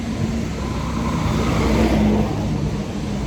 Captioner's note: car passes